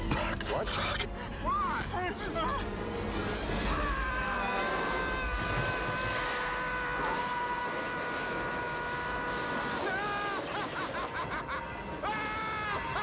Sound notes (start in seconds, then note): 3.8 screaming; 9.7 laughing maniacally